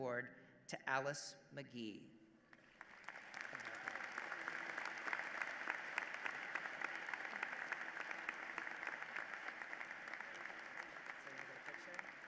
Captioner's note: applause